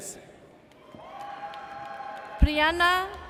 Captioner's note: audience cheers